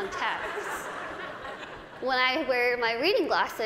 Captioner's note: laughter